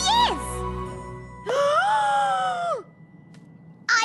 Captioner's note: huge gasp